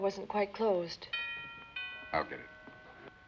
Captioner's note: doorbell